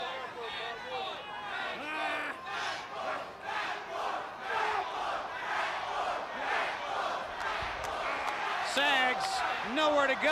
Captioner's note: crowd chatter; crowd cheering